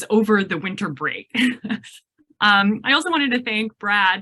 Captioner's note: laughs